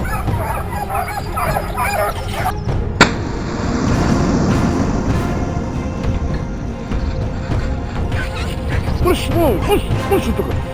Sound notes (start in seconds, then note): 3.0 gunshot